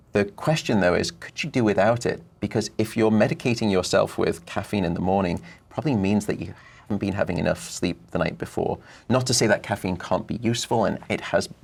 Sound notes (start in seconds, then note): none